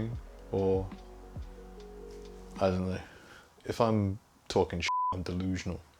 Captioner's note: beep